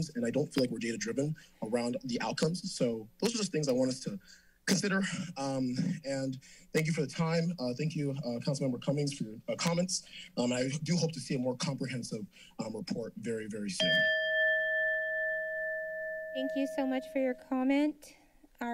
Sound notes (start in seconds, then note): 13.8 alarm bell ding